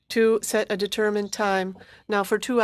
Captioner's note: speaking French